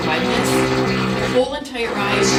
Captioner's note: tool motor whirring